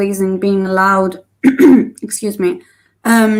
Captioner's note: clears troat